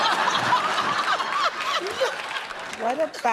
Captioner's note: laughter